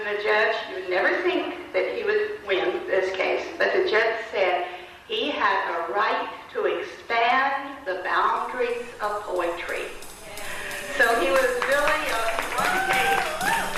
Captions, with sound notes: The judge, you’d never think he would win this case, but the judge said he had the right to expand the boundaries of poetry. [Applause]